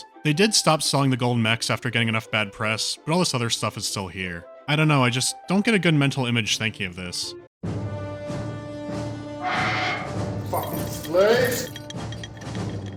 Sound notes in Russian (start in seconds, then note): 9.4 скрежет